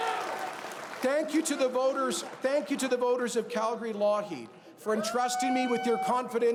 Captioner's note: cheers and Applause